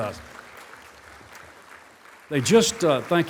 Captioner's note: applause